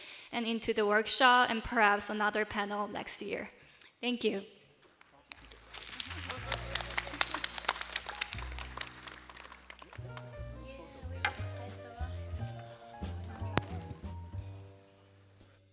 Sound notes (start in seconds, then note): 5.0 applause